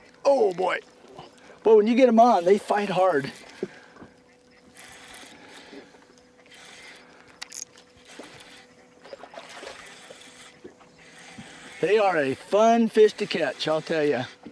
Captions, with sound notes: oh! boy when get them on they fight hard [splashing] they are a fun fish to catch I'll tell you